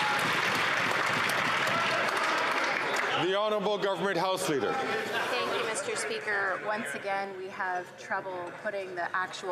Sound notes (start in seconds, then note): 3.5 some Applause